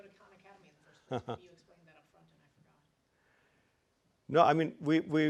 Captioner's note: laugh